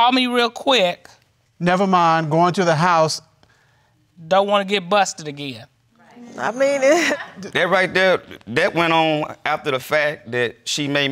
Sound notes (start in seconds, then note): 6.9 chuckles